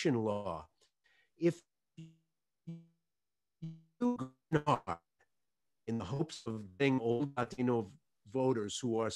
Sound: audio break

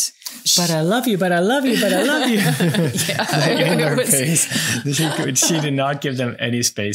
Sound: laughing

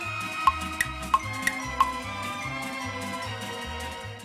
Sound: tick tock sound

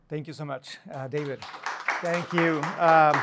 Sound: applause

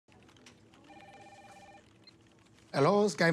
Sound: phone rings

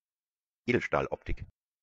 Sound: fast Pronunciation

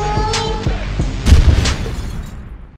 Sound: fire exploding

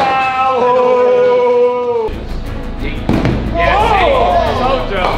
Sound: lads shouting

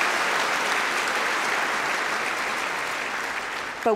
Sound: cheering & Applause

